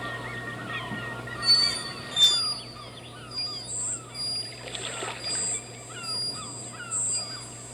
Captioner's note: high frequency